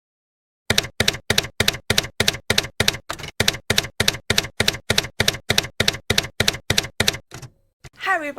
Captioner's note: typewriter keys clacking